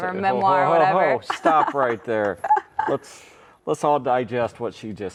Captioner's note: laughs